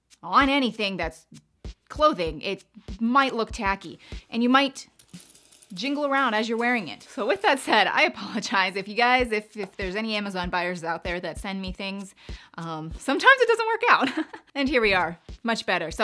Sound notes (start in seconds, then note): 4.9 jewelry clicking; 14.2 laughing